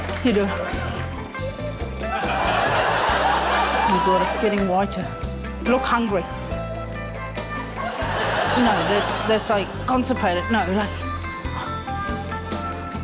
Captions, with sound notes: You do it. (LAUGHTER) Oh my God. It's getting whiter. Look hungry. (LAUGHTER) No, that― that's, like, constipated. No, like...